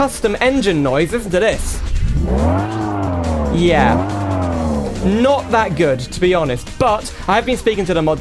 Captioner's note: engine Noise